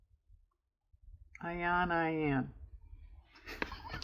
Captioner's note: laughs